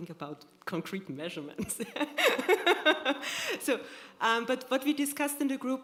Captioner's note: laughter